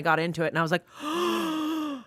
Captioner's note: gasps